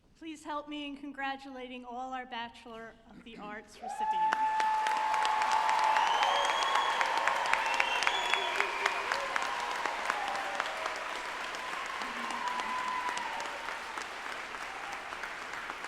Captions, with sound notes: - Please help me in congratulating all our Bachelor of the Arts Recipients. (group applauding and cheering)